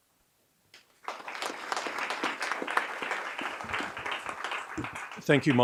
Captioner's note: audience clapping